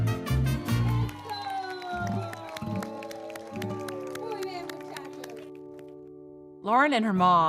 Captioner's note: clapping; speaking in foreign language